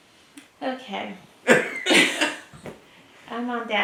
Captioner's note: laugh